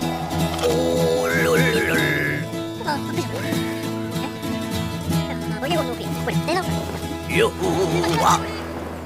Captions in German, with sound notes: * Windpfeifen * Oh! (aufgeregtes Gebrabbel) Juhu. Woa?